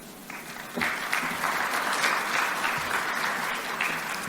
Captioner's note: audience applaud